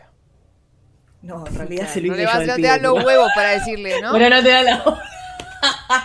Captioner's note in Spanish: risas